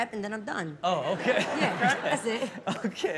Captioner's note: laughing